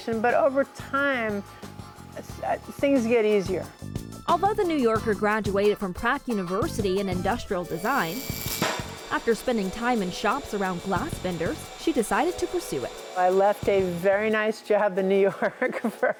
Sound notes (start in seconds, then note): 7.3 tool whirring; 15.3 chuckles